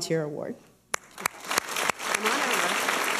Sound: applause

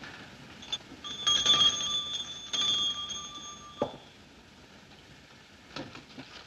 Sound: bell Ringing

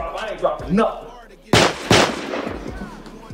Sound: gun fires

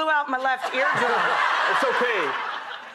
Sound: audience laughs

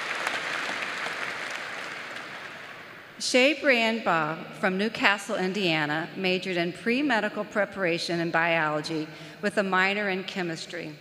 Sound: applause

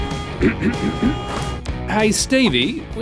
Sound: clears Throat

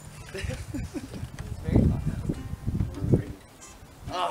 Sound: light laughter

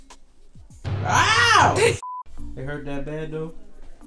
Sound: screams in pain

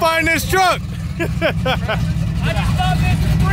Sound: laughing

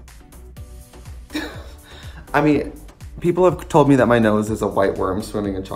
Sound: laughing

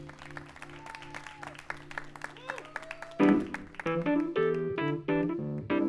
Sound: applause

